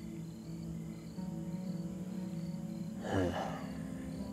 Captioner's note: crickets chirping; Ben sighs